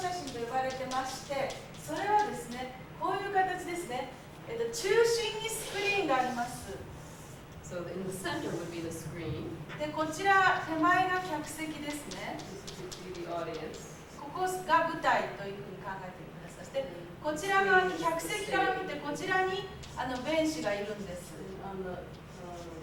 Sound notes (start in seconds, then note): 0.2 speaking Japanes; 10.5 speaking Japanes; 18.1 speaking Japanes